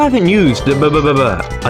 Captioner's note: mating Call